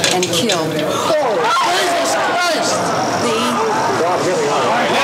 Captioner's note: crowd chattering